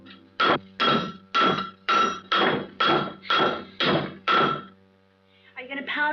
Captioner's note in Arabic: الدق على المعدن